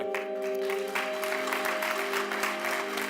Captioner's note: clapping; emotional music